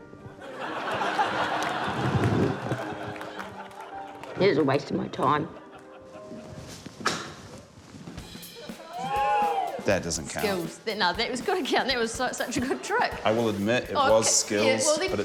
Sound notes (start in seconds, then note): 0.3 audience laughs; 8.5 audience whoops